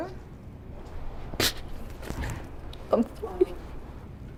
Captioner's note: sobs